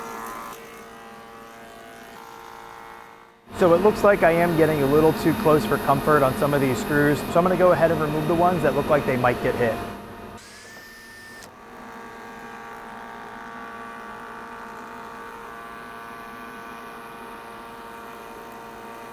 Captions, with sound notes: (molder buzzing) So it looks like I am getting a little too close for comfort on some of these screws. So I'm going to go ahead and remove the ones that looked like they might get hit. (screwdriver buzzing) (molder whirring)